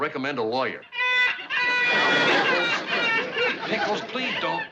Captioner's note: pickles crying on phone